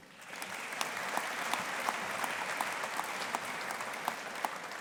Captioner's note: audience applauding